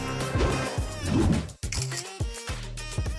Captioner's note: upbeat music; air whooshing; camera clicking; upbeat music